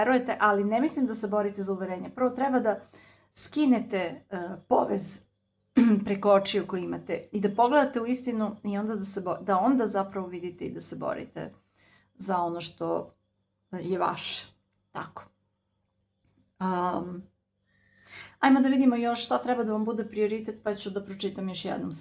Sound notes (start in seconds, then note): 5.8 coughs